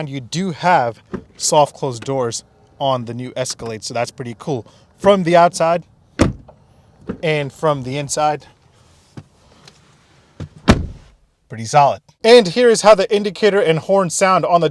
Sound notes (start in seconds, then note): 6.2 door closing; 7.3 door opening; 10.4 door closing